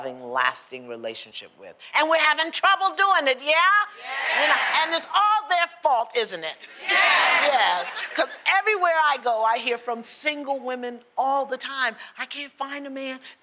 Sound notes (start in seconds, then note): 7.2 laughter